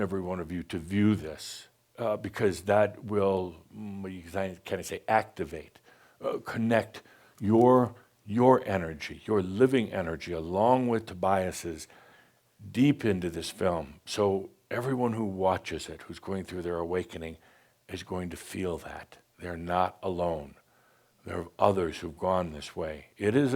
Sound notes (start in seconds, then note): none